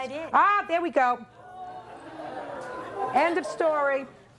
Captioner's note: audience exclaiming